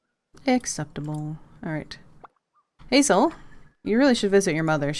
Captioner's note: none